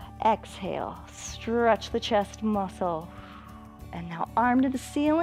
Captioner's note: exhales